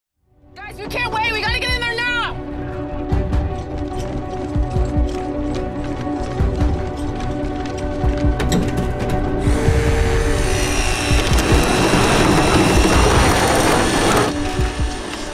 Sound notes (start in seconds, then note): 1.9 tense music; 9.2 mechanical whirring